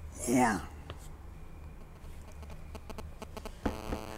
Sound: phone ringing

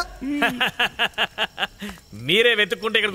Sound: laughs

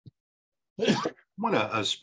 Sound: coughs

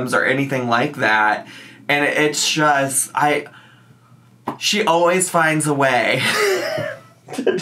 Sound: laughs

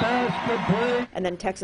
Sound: announcer speaking

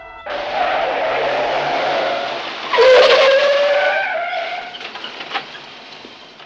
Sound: tires screeching; engine revving

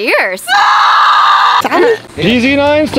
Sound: screams loudly

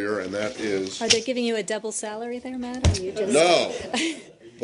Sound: laughter

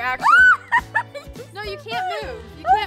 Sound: laughing

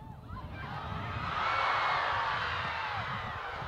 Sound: cheering

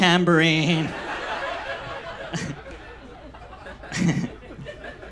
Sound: audience laughs

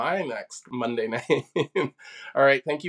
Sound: laughs

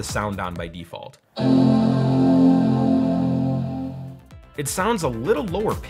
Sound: computer chimes

